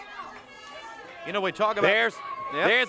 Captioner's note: crowd chatter